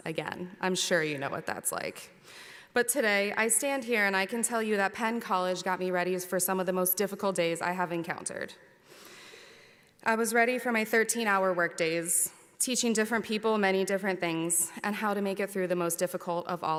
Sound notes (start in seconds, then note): none